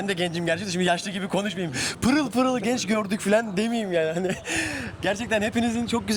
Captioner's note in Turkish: kahkaha